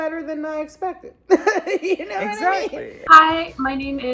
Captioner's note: laughs